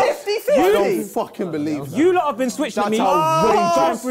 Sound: crowd mumbling

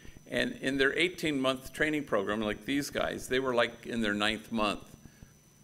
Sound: none

